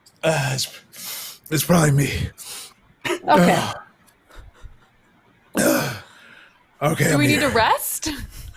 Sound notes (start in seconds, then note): 3.2 groans